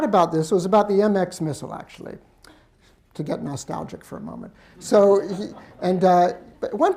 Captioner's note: laughter